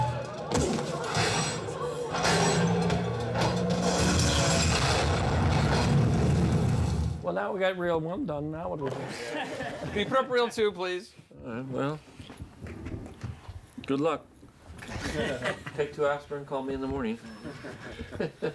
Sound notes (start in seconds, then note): 14.8 laughter